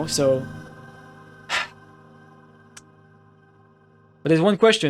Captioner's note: sigh